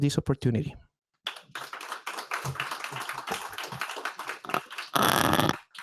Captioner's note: applause